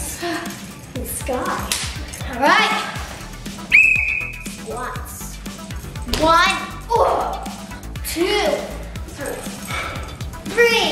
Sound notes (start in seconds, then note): 3.6 blowing a whistle